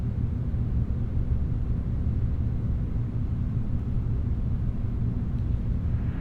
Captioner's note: space humming grows louder